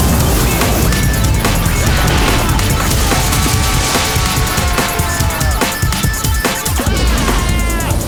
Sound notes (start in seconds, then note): 3.0 dude screaming